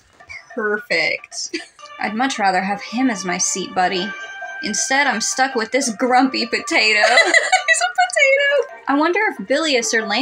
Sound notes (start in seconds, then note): 1.0 chuckle; 7.2 laugh